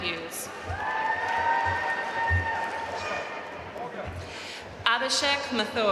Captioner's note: audience cheering and applauding